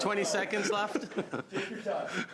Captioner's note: laughter